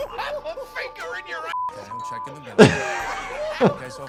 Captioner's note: beep beep